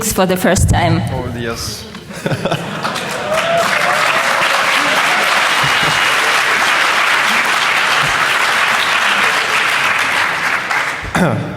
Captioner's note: applause